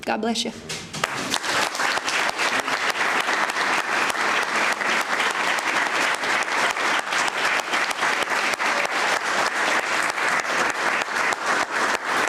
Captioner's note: applause